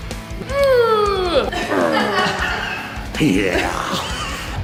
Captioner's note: grunting